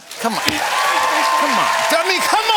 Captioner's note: cheers and applause